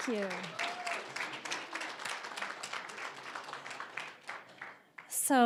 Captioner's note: applause